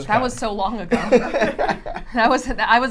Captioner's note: laughs